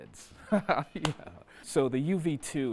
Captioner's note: chuckling